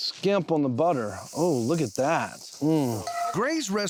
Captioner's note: sizzling sounds